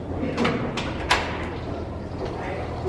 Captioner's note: door opens